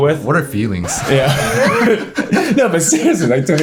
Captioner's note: everyone laughs